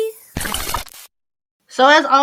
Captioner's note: screen sizzles